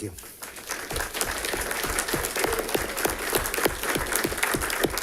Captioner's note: audience applauding